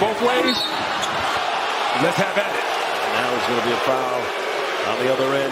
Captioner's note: whistle